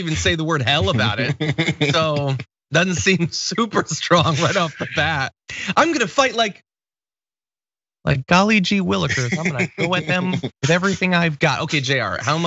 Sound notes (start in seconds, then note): 0.6 laugh; 9.0 laugh